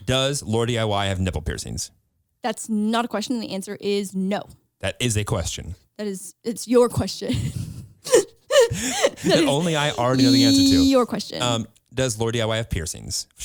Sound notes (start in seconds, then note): 8.0 laughs